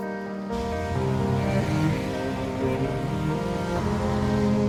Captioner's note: traffic rumbling